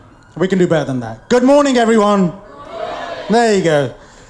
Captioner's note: crowd shouts back